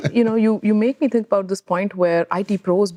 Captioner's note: laughter